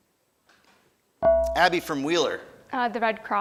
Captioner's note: ding